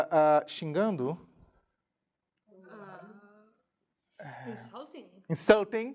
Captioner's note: speaking in a foreign language